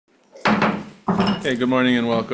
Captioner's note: gavel bangs